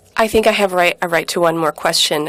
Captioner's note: speaking in French